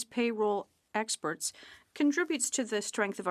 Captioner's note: speaking French